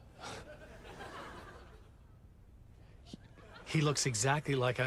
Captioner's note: audience laughing